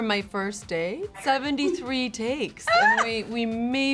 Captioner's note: Kerry laughs